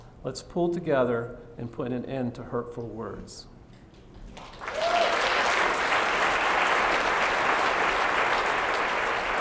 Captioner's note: applause